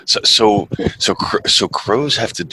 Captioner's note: chuckles